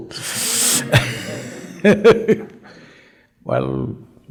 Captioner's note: laughs